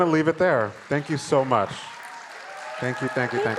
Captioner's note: crowd cheering